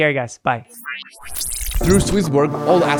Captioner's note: electronic beeping